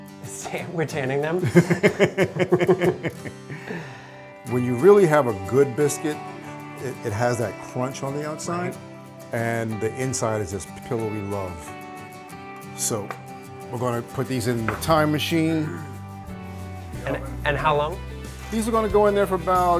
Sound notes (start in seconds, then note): 1.4 laughing